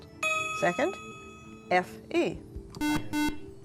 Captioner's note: buzzer